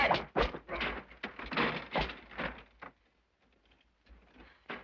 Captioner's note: wagon wheels rattle